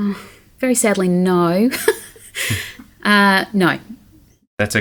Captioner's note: laughing